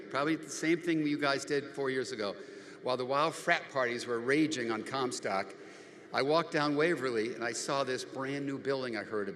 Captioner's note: none